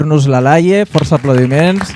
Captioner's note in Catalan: Aplaudiment